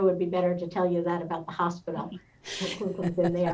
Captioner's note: laughing; murmurs